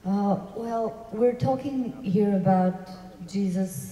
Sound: voiceover

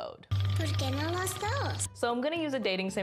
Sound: girl speaks in foreign language

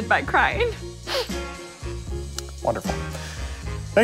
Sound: sniffles

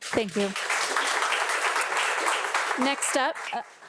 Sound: audience applauding

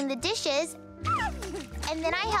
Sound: laughs

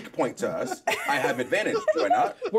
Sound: laughs; speaker laughs

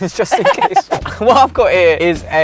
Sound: laughter

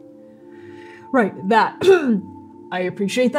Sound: clcearing throat

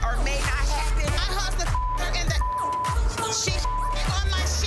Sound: beep

